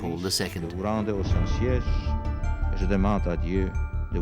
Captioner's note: Pope John Paul II speaking French